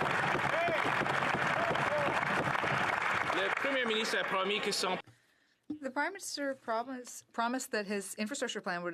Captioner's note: some Applause